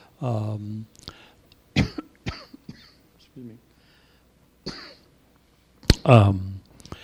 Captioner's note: coughing